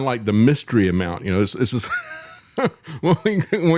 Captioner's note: laughs